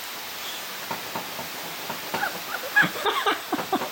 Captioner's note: laughter fit